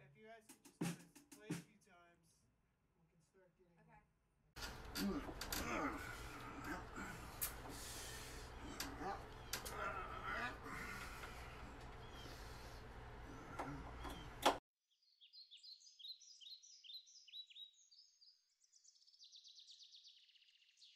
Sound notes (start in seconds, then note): 2.9 drums; 4.6 grunting; 15.2 birdsong